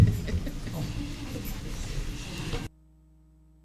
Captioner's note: laughter